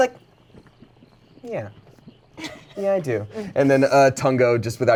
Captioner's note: laughs